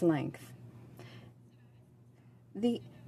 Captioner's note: speaking French